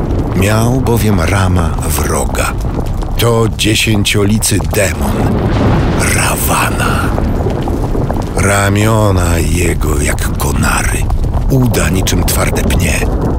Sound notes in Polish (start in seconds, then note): 5.8 grzmoty, szmery, trzaski